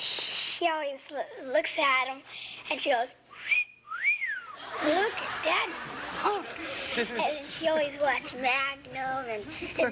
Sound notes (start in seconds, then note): 3.3 whistles